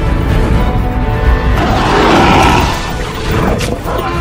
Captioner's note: wolves snarls